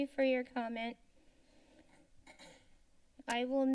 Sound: clears throat

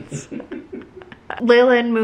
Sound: laughing

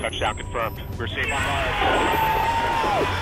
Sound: all cheering

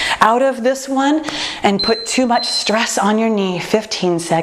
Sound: timer beeping

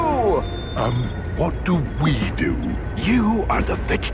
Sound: whispering

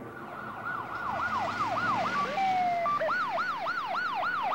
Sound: siren wailing

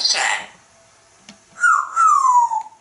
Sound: whistle

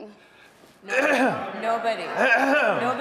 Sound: clears throat; audience laughing

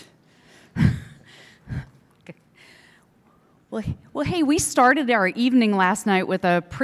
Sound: laughing

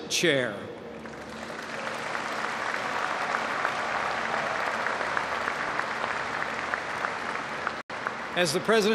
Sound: applause

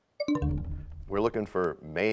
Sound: bell chimes, time expires

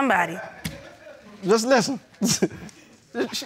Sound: chuckles

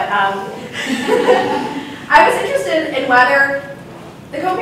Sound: audience laughs

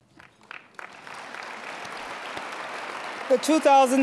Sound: applause

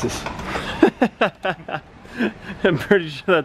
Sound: laughs

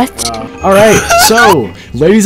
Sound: cries like a little girl haha

